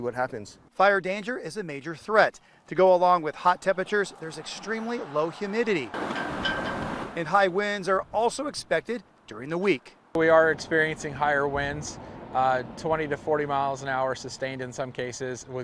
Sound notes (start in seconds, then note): 3.6 flag banging on flagpole